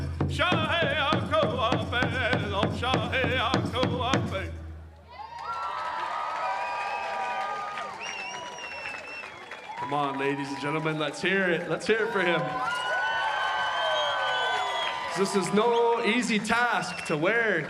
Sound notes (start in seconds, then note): 13.5 cheering and applause